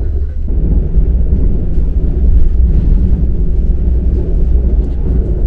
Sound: this is the noise of the cars with motors

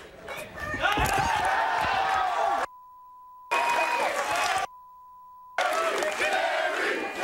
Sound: audience cheering; beep

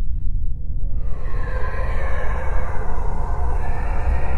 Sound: cloud vocalizes

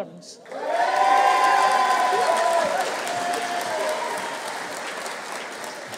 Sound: audience cheering; audience applauding

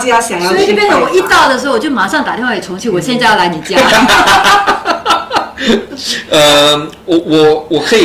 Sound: laughter

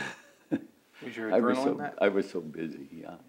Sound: laughs

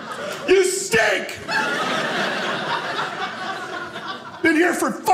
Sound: audience laughing

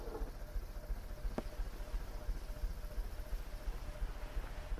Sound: erratic knocking

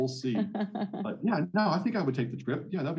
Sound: laughing

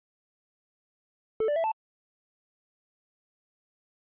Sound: notification sound

